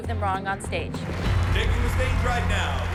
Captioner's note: cheering and applause